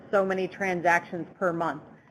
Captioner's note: Static; background Talking